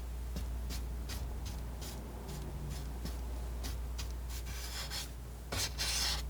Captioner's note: scratching